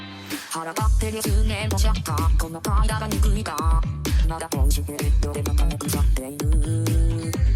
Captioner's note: upbeat music; speaking in foreign language